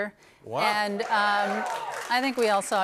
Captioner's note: cheers